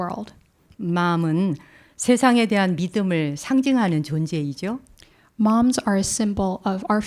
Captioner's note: speaking in Korean